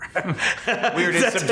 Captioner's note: both laughing